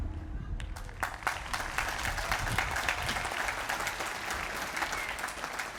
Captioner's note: applause